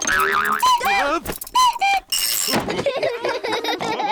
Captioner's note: clock cuckoos; all laugh